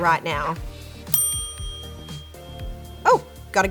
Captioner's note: bell chimes